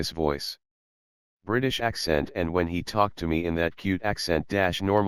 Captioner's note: British accent